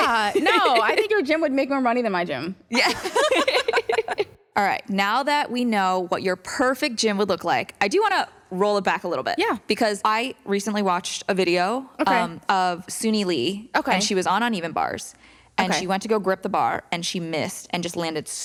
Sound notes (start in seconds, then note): 2.7 laughter